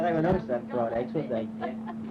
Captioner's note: female laughing